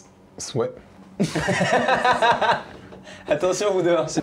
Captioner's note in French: rires